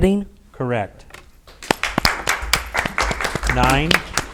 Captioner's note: audience applauds